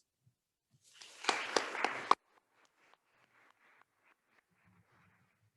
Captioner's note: attendees applauding